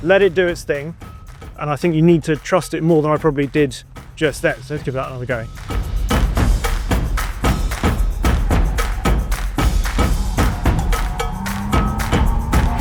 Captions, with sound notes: let it do its thing, and I think you need to trust it more than I probably did just that, so let's give that another go. (upbeat music continues) (vehicle revs)